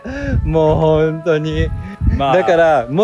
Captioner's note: laughs